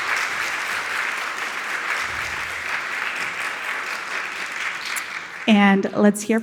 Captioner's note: audience cheering and applauding